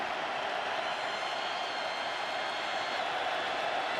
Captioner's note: cheers